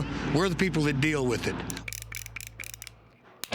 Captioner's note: cylinder clicking